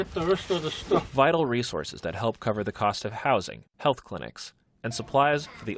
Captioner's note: voice-over